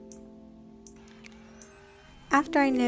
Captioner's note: camera chimes on